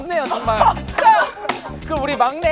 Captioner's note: laughs